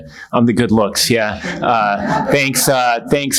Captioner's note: attendees laughing